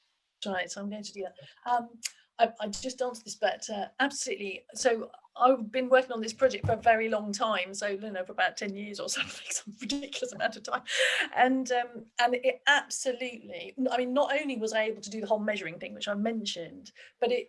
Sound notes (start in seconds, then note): 9.7 laughing